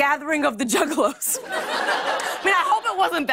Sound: laughter

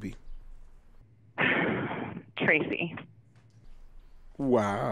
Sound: sighs

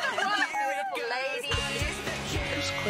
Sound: beautiful lady giggling

